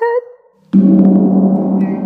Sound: ominous gong

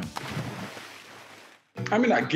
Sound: water splashing

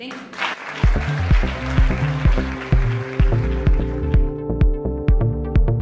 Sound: applauds

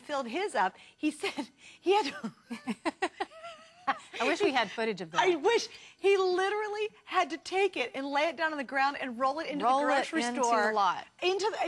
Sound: laughter

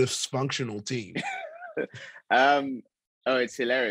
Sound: Chukwudi laughs

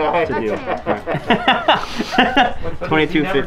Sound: laughing

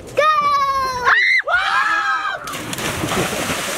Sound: screaming; water splash

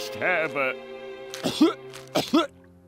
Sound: coughing

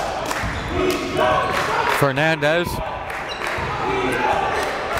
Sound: crowd

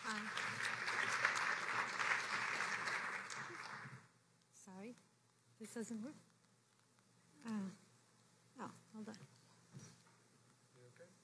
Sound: applause

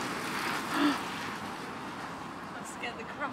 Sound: gasp

